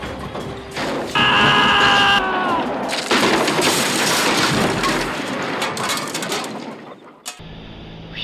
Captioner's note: car crashes through barn doors